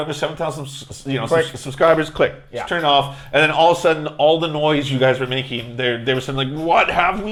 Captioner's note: click